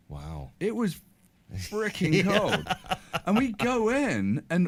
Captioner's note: laughs